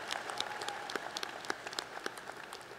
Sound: applause

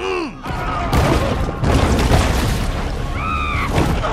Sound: people screaming

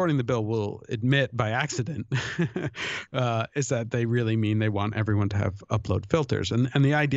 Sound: chuckle

